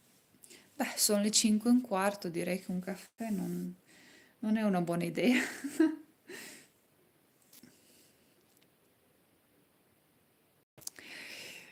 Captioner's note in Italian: risate